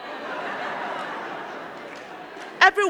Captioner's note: crowd clapping; crowd laughing